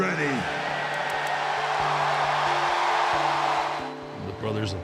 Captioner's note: audience cheering